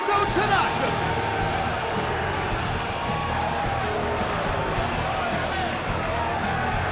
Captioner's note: crowd cheering; upbeat music